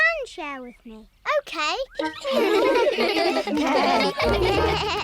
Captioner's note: giggling